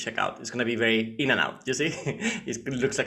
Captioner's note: chuckles